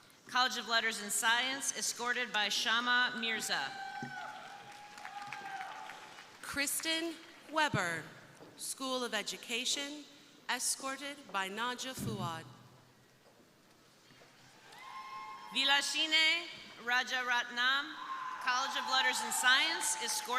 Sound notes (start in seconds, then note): 3.6 crowd cheering; 3.9 crowd applauding